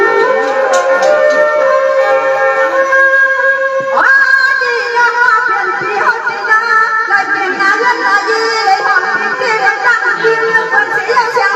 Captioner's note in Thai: ปรบมือ